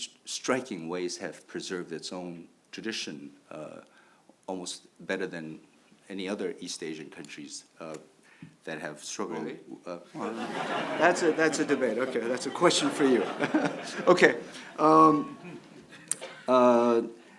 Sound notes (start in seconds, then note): 10.1 audience laughs